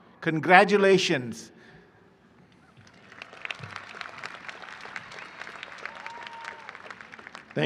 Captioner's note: applause